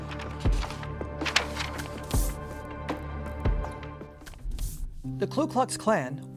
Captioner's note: paper shuffling; ominous music